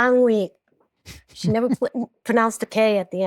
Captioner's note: chuckles